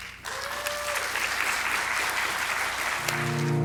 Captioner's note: audience claps